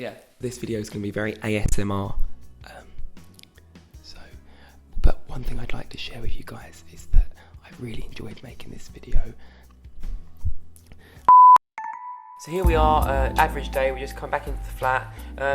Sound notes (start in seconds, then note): 11.3 beeps; 11.7 smooth music